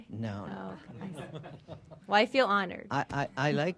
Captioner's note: laughter